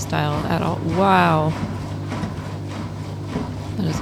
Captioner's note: very loud washing machine